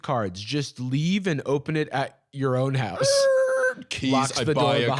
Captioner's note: screeching